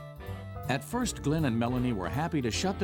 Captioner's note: voiceover